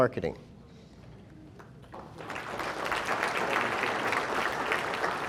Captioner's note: audience applauding